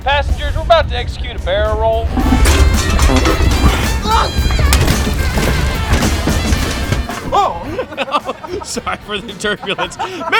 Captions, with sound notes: Passengers, we're about to execute a barrel roll. [GASP] Oh. [LAUGHS] Oh, sorry for the turbulence.